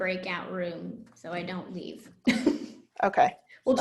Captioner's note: laughs